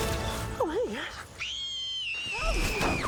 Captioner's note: girls scream